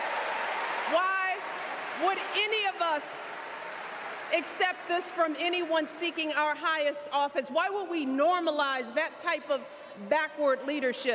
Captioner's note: cheers and applause